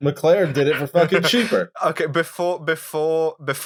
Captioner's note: laughter